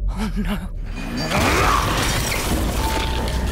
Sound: snarling

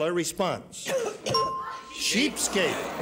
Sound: bell dings

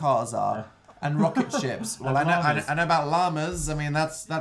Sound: laughs

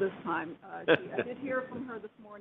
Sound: man laughing

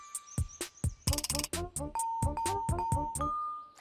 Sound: dinging

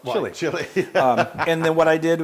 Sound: laugh

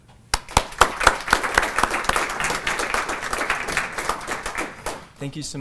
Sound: applause

